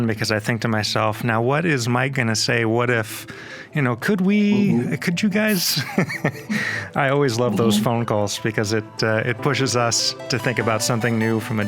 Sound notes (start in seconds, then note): 4.5 laughing